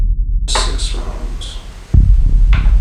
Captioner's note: whispers